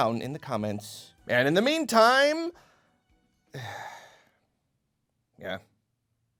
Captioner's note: sigh…